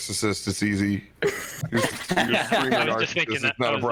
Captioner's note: all giggles